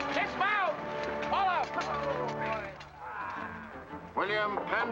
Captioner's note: men groan in relief